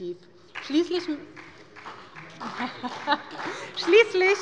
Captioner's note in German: Beifall bei der SPD